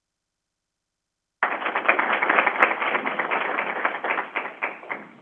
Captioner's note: crowd applauding